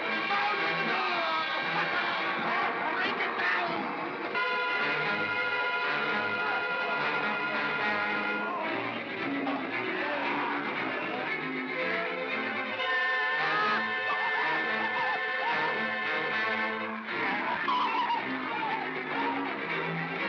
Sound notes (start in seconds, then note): 3.8 suspenseful music; 13.4 Stan & Ollie scream; 16.6 suspenseful music